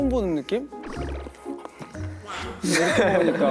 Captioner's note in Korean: 움냠냠